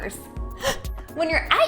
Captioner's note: gasping